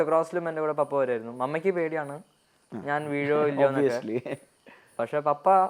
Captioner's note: chuckles